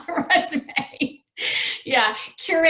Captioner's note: laughs